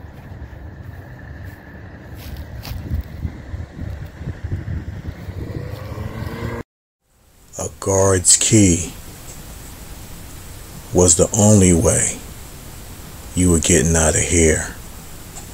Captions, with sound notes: (engine rumbling) (wind rustling) A guard's key was the only way you were getting out of here.